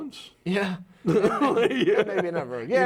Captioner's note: laughing